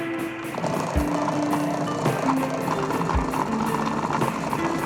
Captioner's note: churning